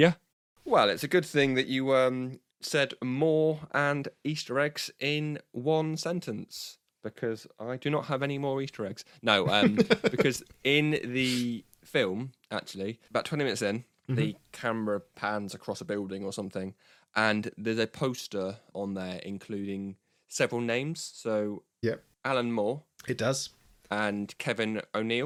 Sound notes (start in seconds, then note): 9.4 laughs